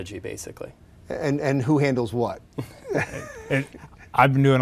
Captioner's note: laughs